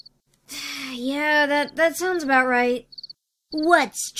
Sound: sighs

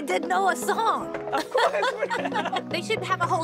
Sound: laughter

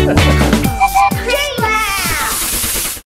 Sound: laughs; whistle toots

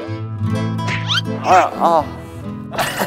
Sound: flap

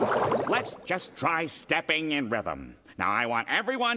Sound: none

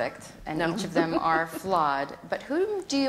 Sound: laughs

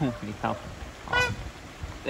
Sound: honk :D

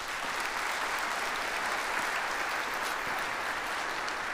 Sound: audience applauds

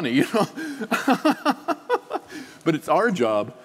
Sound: laughing

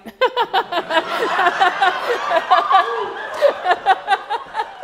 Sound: audience laughs

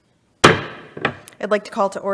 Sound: gavel bangs

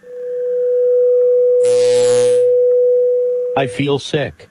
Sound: electrical humming and shorting-out sounds

